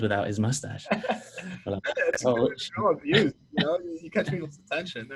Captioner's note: laughing